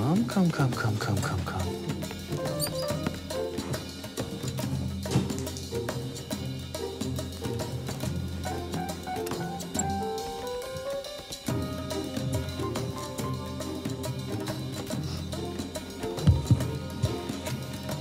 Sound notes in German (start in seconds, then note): 2.4 Fiepen; 9.6 Fiepen; 14.3 Er schnüffelt